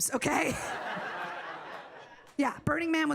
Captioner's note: audience laughing